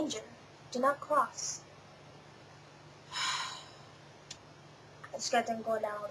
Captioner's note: sighs